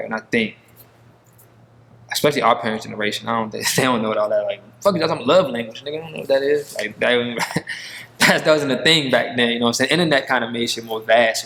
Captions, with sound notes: And I think especially our parents generation, I don't, they don't know what all that like, Fuck is you talking about a love language, nigga? I don't know what that is. Like that wasn't a thing back then. (chuckling) You know what I'm saying? Internet kind of shit made more vast,